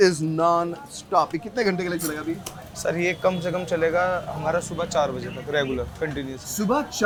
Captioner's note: host and cook speak foreign language